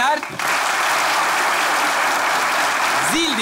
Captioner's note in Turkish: Alkış sesleri